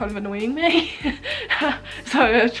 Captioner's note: laughs